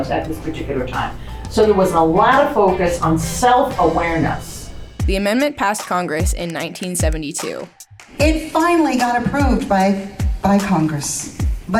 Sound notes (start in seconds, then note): 5.5 upbeat instrumental music; 6.4 words click